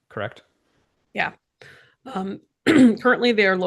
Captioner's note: clears throat